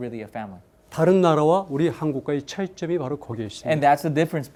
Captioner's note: speaking in Korean